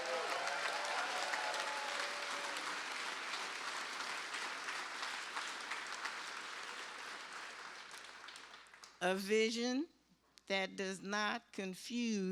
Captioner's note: cheers and applause